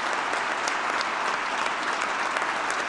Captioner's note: applause